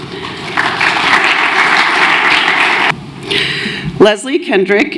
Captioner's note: applause